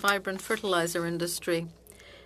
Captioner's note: speaking French